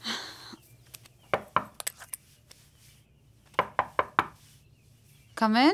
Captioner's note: Knock on the door